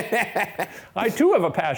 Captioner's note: both laughing